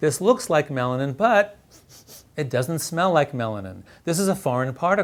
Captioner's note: sniffing